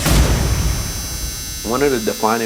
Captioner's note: buzzing